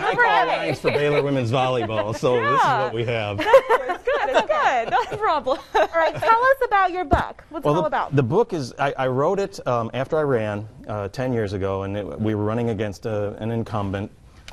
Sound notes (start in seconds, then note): 0.0 laughing